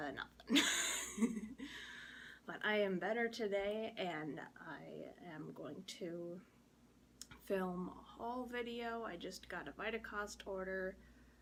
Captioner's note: laughs